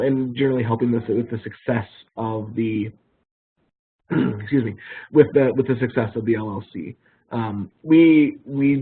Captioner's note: clears throat